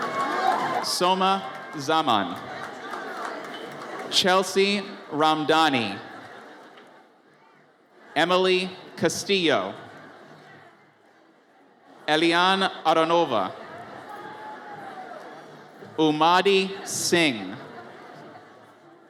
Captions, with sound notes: (audience cheers) Soma Zaman. Chelsea Ramdhanie. Emely Castillo. Eliane Aronova. (audience cheers) Ummadai Singh.